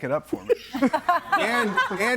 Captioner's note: group laughs